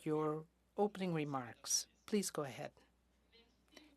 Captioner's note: speaking French